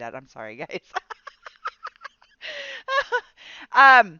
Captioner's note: laughing